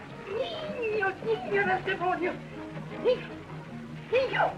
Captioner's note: spanish